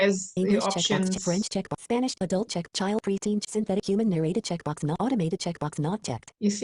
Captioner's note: screen reader continues speaking rapidly